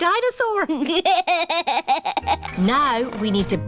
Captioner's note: chuckles